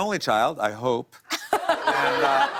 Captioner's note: laughter